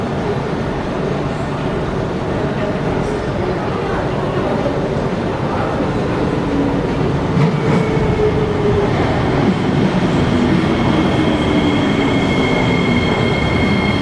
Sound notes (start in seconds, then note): 7.4 train arrives